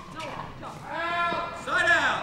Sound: players chattering

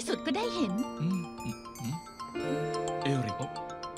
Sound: phone ringing

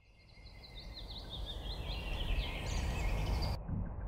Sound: birds chirping

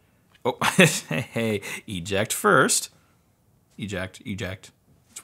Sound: laughs

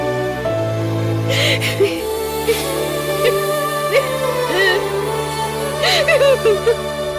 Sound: sobbing

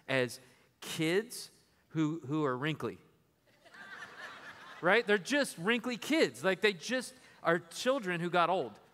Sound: laughter

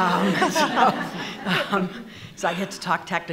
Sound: laughing

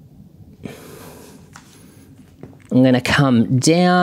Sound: sighs

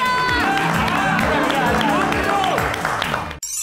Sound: cheering; applauding

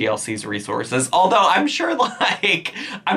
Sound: laughing

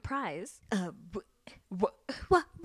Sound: Santana stammers

